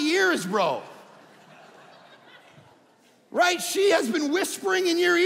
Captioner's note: audience laughing